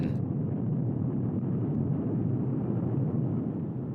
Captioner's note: explosion booms